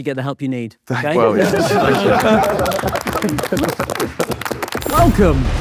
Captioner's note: group laughing; group clapping